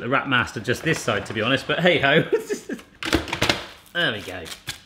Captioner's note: chuckles